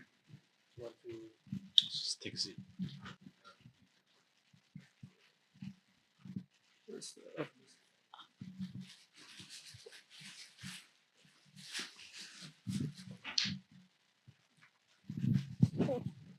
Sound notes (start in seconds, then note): 0.6 background chatter